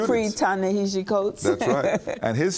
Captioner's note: laughter